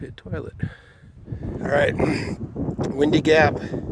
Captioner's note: wind blowing loudly in background